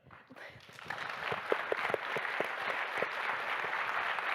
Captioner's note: audience applauding